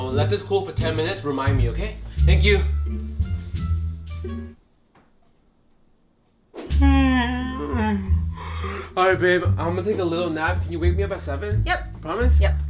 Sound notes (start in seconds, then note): 3.5 playful music; 6.6 yawn